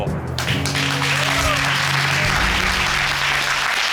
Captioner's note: audience applauding and cheering